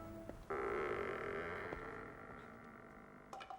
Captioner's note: door creaking